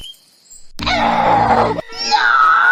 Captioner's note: Jinx Growling